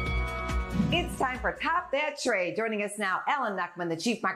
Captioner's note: bell rings